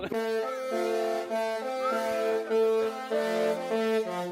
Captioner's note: laughs; horns blare